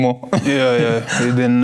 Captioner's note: laughing